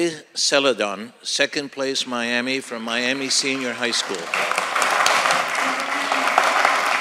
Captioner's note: applause